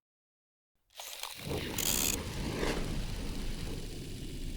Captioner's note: film reel clicking